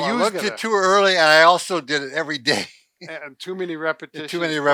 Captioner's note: chuckles